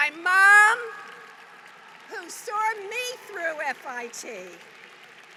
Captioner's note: applause